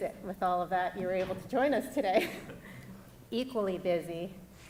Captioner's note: laughs